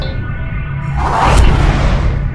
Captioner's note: zap